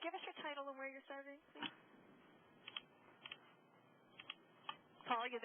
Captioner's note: sound effects